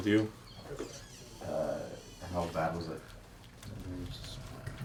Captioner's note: crujido de la puerta